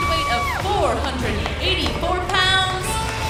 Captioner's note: crowd cheering